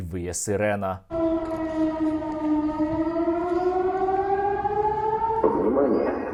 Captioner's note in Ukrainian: виє сирена